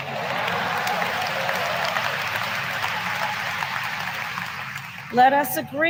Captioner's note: applause